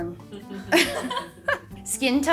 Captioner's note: laughing